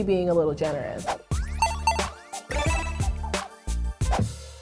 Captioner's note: digital ping; upbeat snare drums